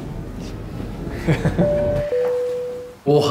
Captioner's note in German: Leises Lachen